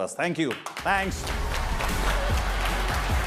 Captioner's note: applause